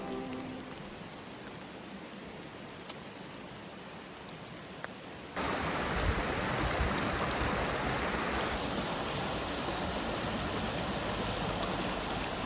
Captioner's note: woodland sounds